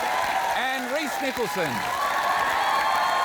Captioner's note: cheering, applause